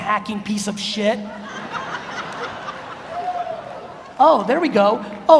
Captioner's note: audience laughs